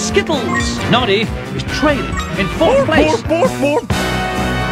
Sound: keeps repeating "BARF!!"

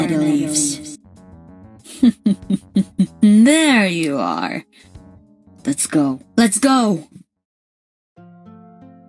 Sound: chuckles

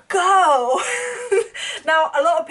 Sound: laughs

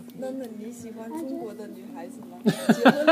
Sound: mandarin

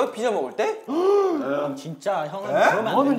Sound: shocked

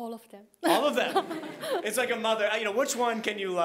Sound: all laughing

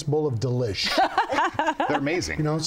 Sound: laughs

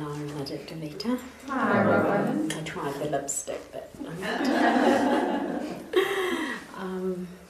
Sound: laughter

